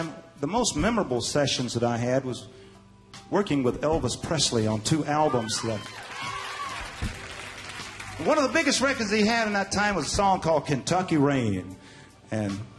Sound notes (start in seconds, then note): 7.9 audience cheering